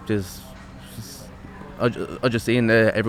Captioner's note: stuttering